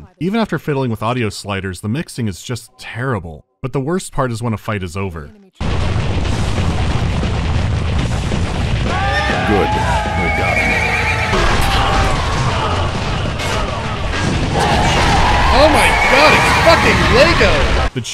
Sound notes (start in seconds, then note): 8.9 loud cheering of troops and neighing of horses; 11.2 obnoxiously loud sounds of combat; 14.5 deafening cheering